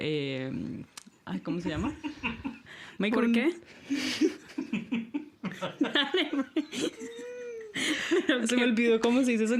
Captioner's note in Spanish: risas